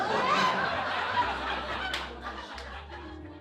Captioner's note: laughing